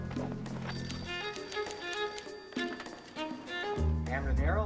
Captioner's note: telephone rings